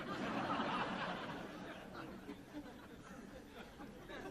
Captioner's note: laughter